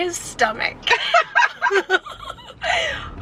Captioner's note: both laughing